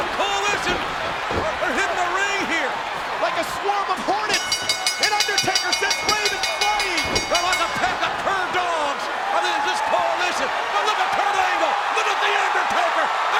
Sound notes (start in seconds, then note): 4.3 bell chimes